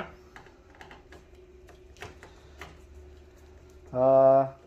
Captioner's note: opening printer cover sound